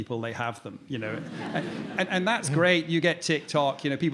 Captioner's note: audience laughing